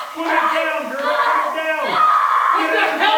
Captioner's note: screaming